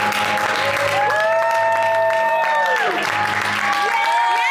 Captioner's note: audience cheering